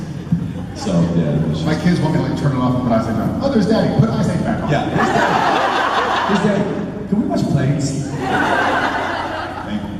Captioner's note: crowd laughs